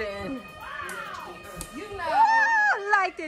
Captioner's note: switch clicks